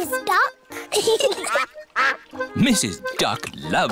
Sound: both giggling

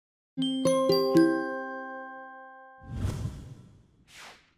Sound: bell tones ring

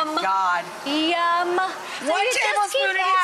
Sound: audience exclaims

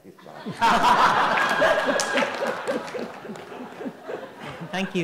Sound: everyone laughs

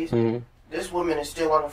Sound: sounds of agreement

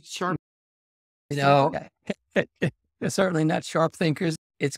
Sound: laughs

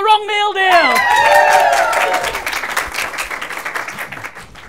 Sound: applause and cheers

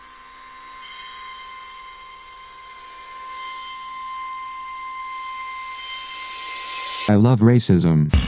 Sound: scary sound effects

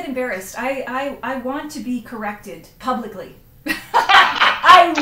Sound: laughs

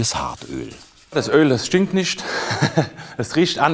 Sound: he laughs

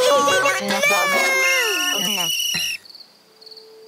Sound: whistles

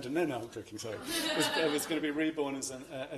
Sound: laughter

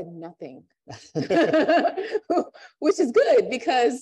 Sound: laughter

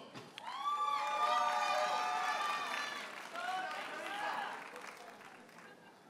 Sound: audience cheers and applauds

